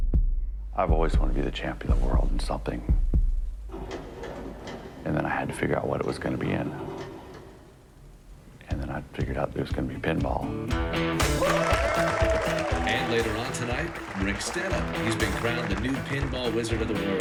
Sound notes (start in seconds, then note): 3.1 heartbeat stops